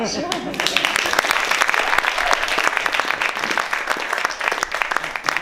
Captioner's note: applause